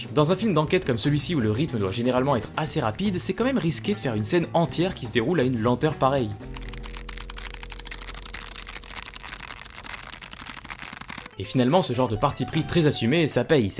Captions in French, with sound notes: Dans un film d'enquête comme celui-ci où le rythme doit généralement être assez rapide, c'est quand même risqué de faire une scène entière qui se déroule à une lenteur pareille. [Bruit de carton qui se déchire] Et finalement ce genre de parti pris très assumé, ça paye.